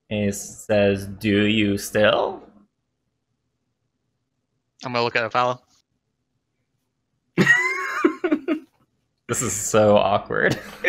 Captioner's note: laughter